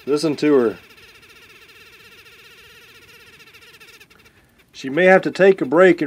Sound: mad dauber buzzing

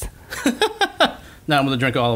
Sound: laughter

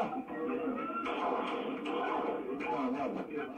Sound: shots

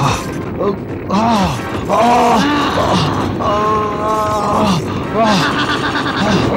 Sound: groaning in pain

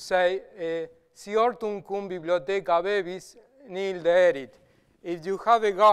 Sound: speaking Latin

